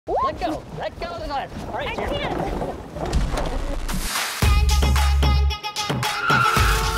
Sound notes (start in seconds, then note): 3.2 static buzzing; 3.9 upbeat house music